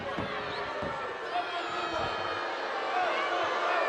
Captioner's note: crowd booing